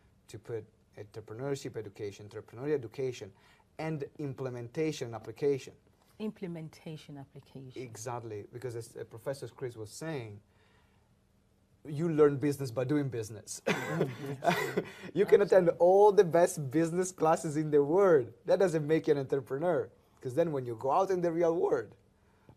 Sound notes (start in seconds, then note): 13.6 laughs